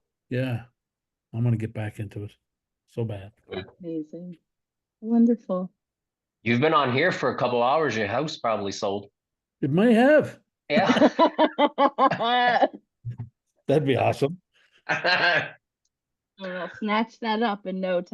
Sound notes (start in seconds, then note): 10.7 all laugh